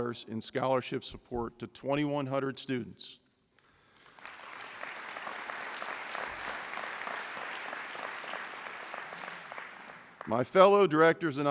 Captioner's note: applause